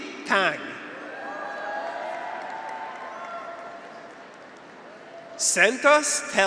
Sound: graduates cheer; audience applauds

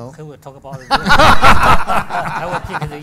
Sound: audience and panel laugh

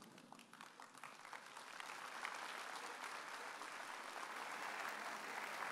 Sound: audience applauding

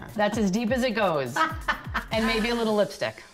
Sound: laughing

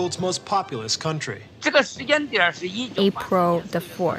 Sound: speaking Mandarin

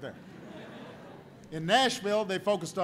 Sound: laughter

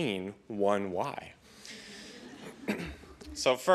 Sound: laughter

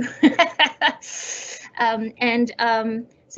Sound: laughs

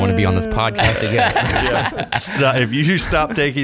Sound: laughing

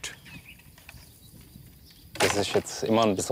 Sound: birds chirping

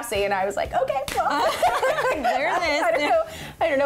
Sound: laughing

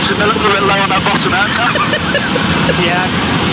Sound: laughter

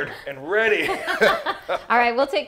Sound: laughing

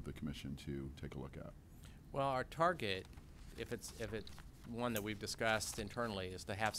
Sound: executive Director speaking

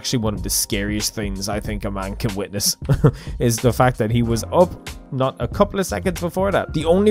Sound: chuckle

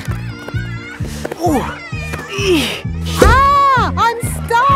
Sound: grunting

